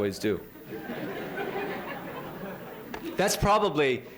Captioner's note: laughter